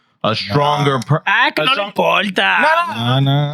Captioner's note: speaking In Foreign Language